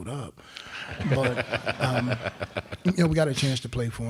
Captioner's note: crowd laughing